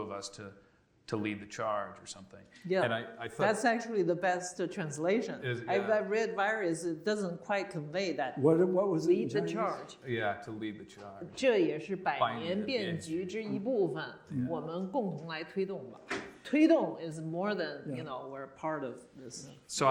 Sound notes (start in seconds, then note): 14.2 speaking Chinese